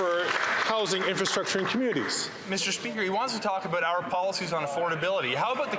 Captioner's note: some Applause